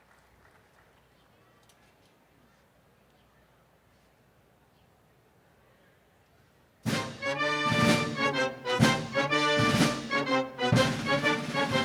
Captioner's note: applause